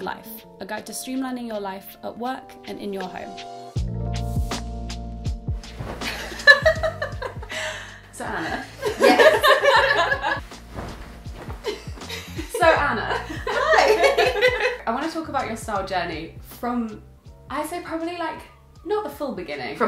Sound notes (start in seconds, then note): 3.5 casual music; 6.1 laughing; 13.9 laughing